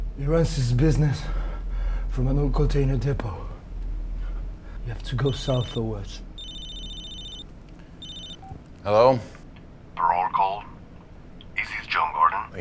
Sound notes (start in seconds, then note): 6.3 cellphone ringing